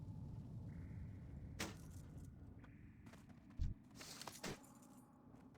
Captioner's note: footsteps